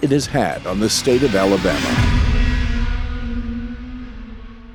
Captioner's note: engine revving